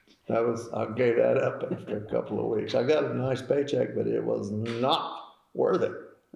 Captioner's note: laughs